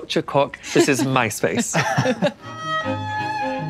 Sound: laugh; upbeat classical music

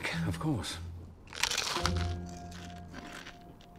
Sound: crunch

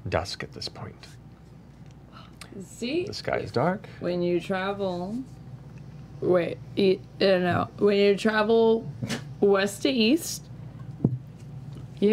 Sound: slurred

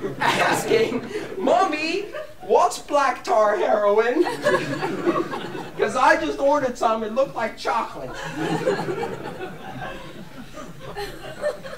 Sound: laughter

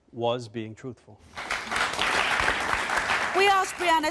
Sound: applauding

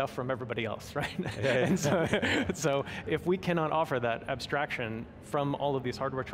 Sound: laughing

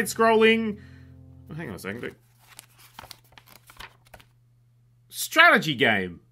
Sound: pages flipping

